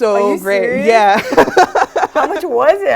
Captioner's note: laugh